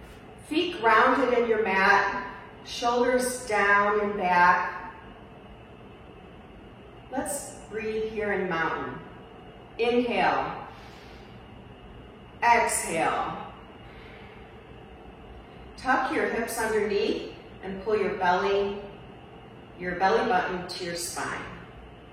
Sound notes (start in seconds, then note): 10.7 inhales; 13.7 exhales